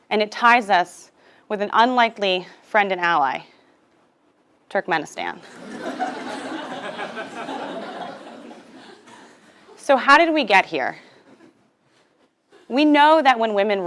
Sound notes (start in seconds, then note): 5.4 laugh